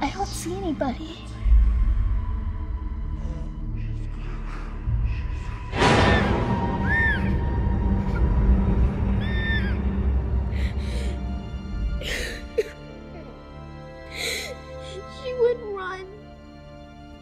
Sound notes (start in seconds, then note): 6.1 sinister music; 7.2 Ellie screaming; 12.0 Hayley crying